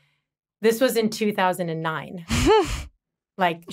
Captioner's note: chuckles